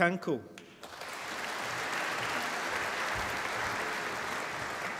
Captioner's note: applause